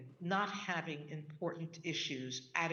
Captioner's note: none